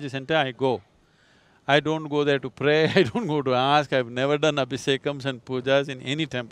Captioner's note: laughs